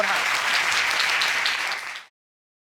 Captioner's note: audience applauding